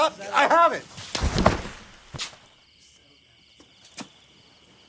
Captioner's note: body slamming